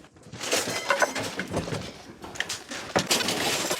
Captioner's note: debris clatters